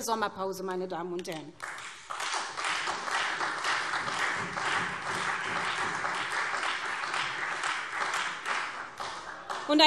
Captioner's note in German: Beifall SPD und Freie Demokraten